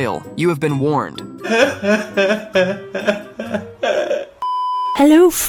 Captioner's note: man sobbing